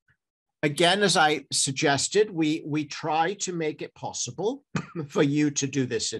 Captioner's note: coughs